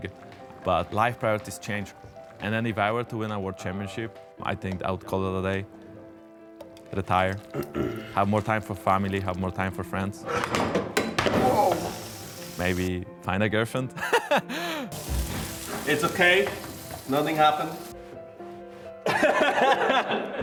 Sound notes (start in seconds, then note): 10.9 silverware clinking; 14.0 laughing; 19.0 laughing hysterically